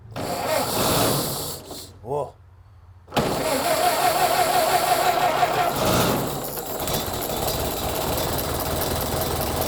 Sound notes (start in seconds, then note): 0.6 engine sputters; 3.2 engine sputters; 6.2 engine starts